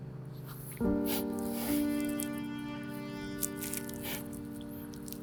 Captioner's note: sniffles